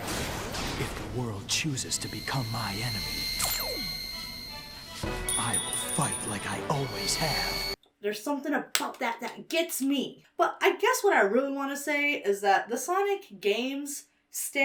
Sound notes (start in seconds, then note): 0.1 lasers blasting; 3.3 ring powers up; 4.6 uplifting music